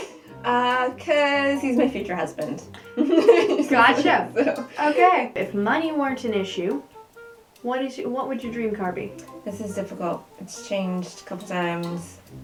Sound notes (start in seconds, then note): 0.0 laughing; 2.9 laughter